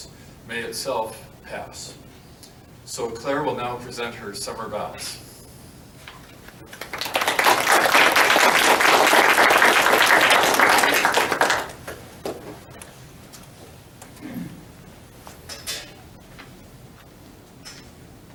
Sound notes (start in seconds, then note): 6.6 applause